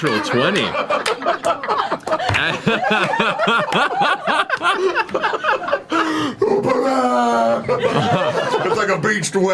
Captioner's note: all laugh